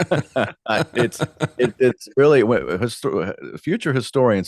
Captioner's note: both Laughing